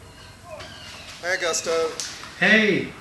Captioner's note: hugo, on phone